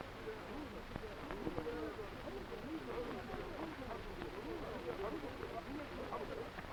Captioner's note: none